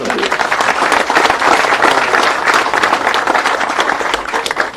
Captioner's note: people applauding